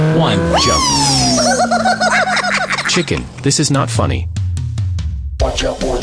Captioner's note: chicken laughs